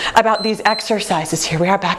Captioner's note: timer beeps